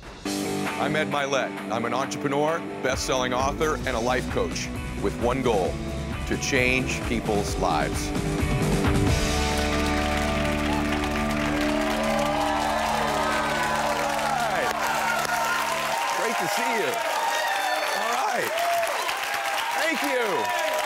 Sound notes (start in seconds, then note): 8.0 audience clapping; 8.0 upbeat music